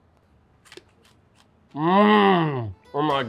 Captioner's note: pork crunching